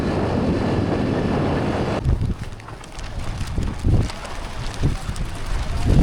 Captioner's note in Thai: ลมพัด